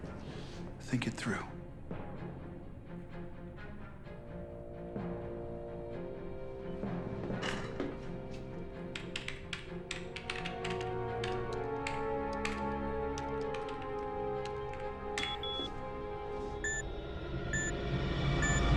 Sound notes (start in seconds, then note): 15.2 beeps